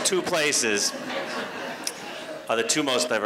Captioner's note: laughter